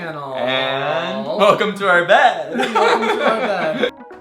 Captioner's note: laughs